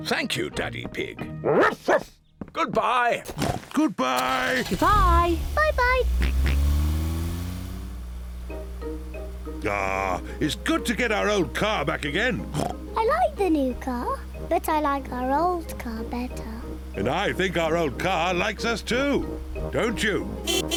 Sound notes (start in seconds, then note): 1.4 barks; 1.5 oinks; 12.4 oinks